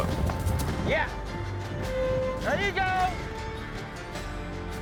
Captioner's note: hoofbeats; cowboys shout encouragement